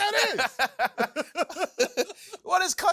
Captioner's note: laughing